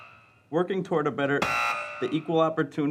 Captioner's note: buzzing